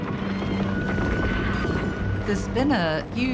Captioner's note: horses neighing, rocks crumbling